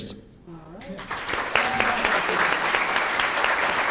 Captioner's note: applause